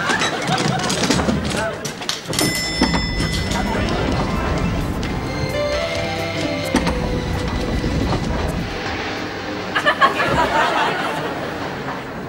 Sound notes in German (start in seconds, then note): 2.3 Klingel läutet